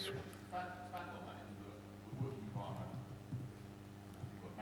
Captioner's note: man speaks softly